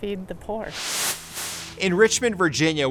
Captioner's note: screen hisses